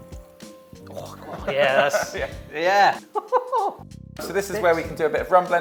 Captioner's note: laughs